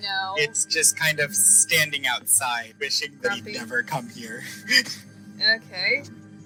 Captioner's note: chuckles